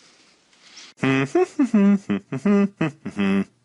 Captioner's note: humming